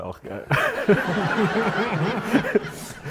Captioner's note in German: Gelächter